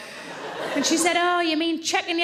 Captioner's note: audience laughing